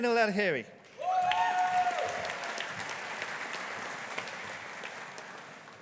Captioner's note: audience applauding